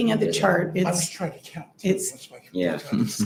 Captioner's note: speaker away from mic